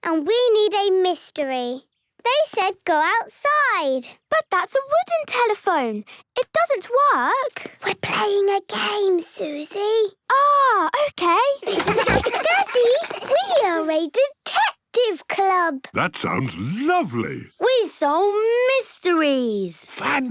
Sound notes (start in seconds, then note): 8.0 whispering; 11.6 giggles, snorts